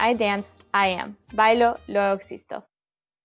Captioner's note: speaking Spanish